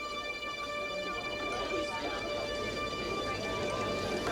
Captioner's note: people chattering